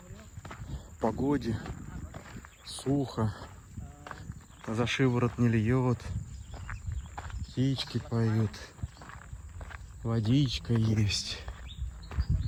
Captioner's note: footsteps crunching